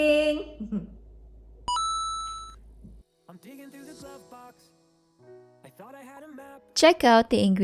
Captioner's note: coin click